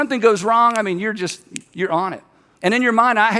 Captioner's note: snaps